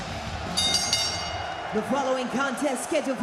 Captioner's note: bell rings